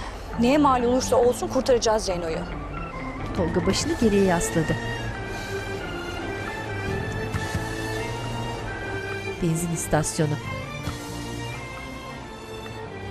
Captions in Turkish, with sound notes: Neye mâl olursa olsun kurtaracağız Zeyno'yu. (Müzik - Arabesk) (Araba sesi)